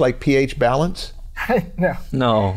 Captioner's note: chuckle